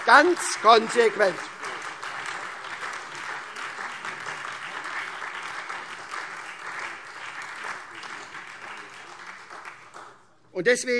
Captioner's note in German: Lebhafter Beifall SPD und DIE LINKE